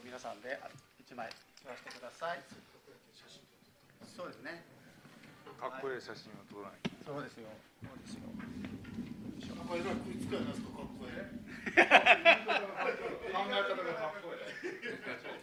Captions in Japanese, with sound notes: 1枚してください。写真撮 そうですね。 かっこいい写真を撮らない。 そうですよ。そうですよ。 えいつかないですか?かっこえかっこえ [笑い]